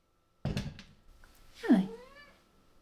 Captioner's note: "Hi" and chirp overlapping